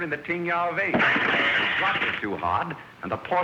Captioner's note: glass breaking